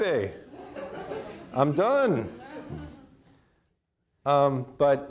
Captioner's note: audience laughing